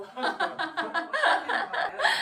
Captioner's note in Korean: 약간 실성 웃음